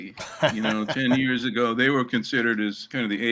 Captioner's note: laughter